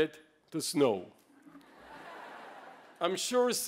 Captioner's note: laughter